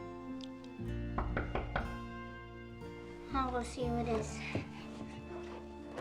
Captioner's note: knock on the door; knocking again